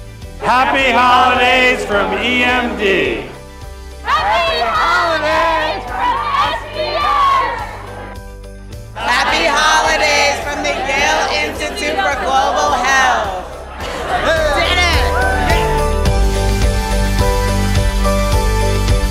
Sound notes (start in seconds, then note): 13.7 group cheering; 15.4 bright music continues